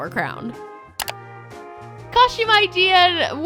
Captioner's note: clicking